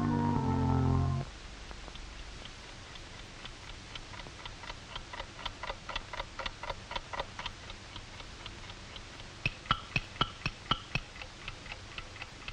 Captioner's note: clock ticks